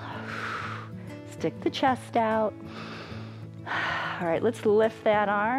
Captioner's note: exhales; inhales and exhales